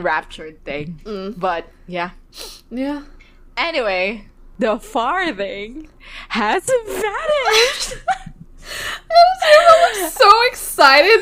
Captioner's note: both laugh